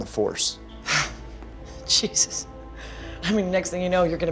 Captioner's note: scoffs